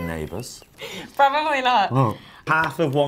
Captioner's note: laughs